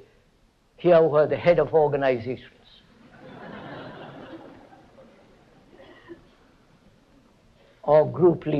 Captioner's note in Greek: γέλια